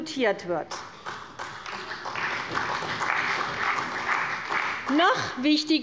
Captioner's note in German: Beifall bei der CDU und dem BÜNDNIS 90/DIE GRÜNEN